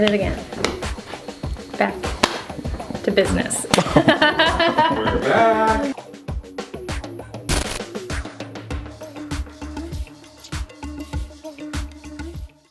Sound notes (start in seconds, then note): 2.0 smacking; 2.1 smack; 3.7 laughter